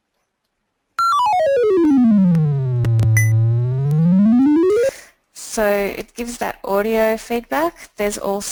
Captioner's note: beeping sounds